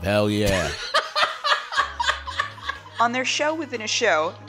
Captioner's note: laughter